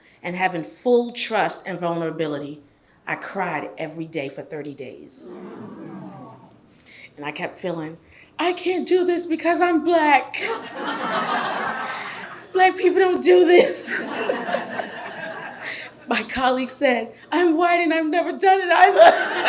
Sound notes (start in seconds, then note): 5.3 audience murmurs; 10.4 audience laughs